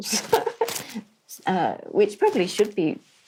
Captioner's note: laughs